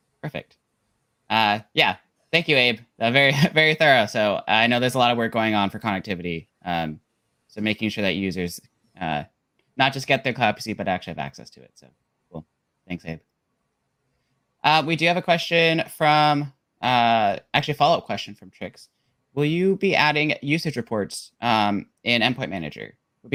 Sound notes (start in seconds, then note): 4.0 laughs